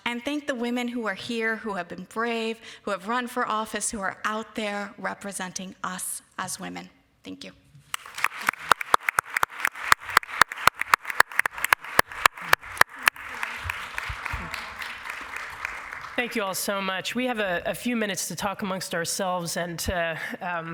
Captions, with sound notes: And thank the women who are here, who have been brave, who have run for office, who are out there representing us as women. Thank you. [applause] - Thank you all so much. We have a few minutes to talk amongst ourselves